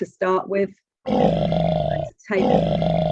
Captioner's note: growling